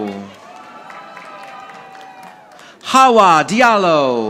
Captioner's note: audience applauding